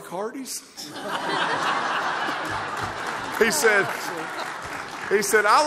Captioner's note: laughter